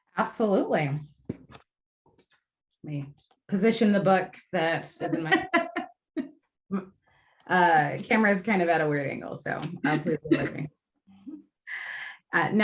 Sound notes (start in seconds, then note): 5.0 laughter